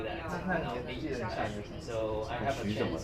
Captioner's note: speaking in foreign language